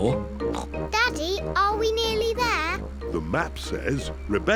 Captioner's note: snorts